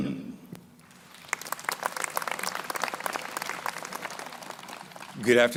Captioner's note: crowd applauding